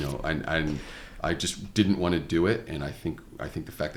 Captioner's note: laughs